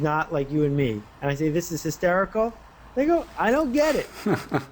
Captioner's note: laughter